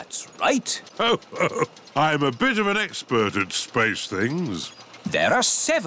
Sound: chuckles

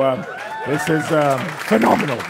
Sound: audience applauding; audience laughing and cheering

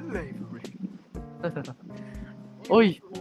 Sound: chuckles

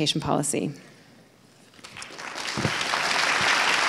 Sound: applauds

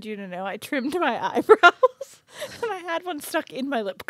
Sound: laughs

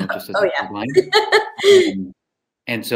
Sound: chuckle

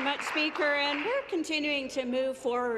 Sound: applause

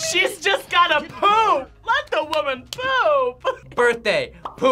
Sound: laughs

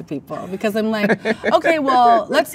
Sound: man laughs

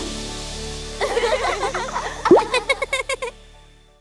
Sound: giggling

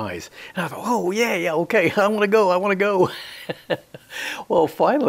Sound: he laughs

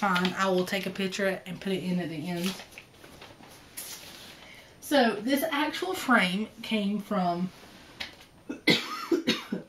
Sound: coughs

